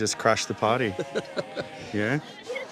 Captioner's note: laughing